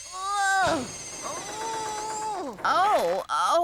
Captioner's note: grunting